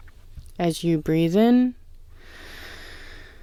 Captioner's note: inhale